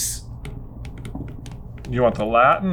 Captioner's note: stylus tapping